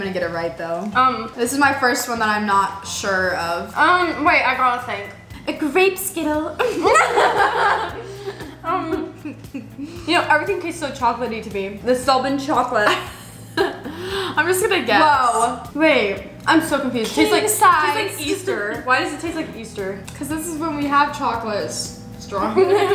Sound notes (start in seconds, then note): 6.6 laughs